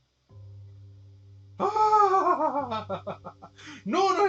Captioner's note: audible Suffering